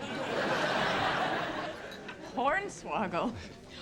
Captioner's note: audience laughs